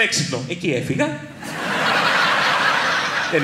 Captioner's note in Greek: γέλια